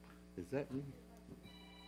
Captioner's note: phone ringing